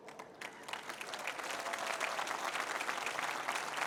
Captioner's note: applause